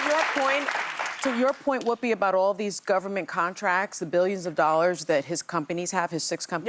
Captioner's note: applause